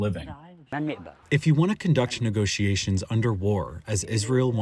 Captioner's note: through translator